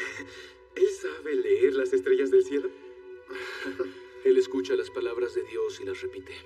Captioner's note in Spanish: Ríe; Ríe